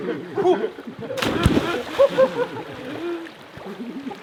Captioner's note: men laughing